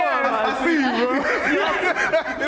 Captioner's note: laughs